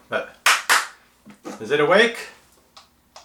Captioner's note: clapping